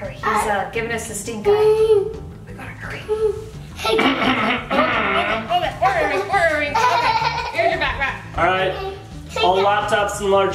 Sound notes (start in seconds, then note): 4.7 guard grunting